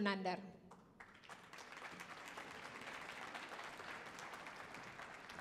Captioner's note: audience applauding